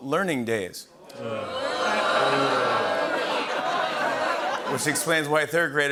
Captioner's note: booing